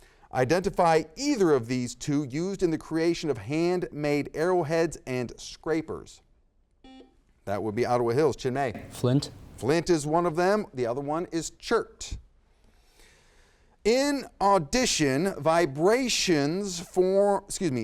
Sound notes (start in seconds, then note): 6.8 buzzer beeps